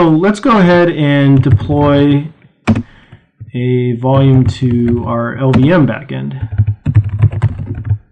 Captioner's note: typing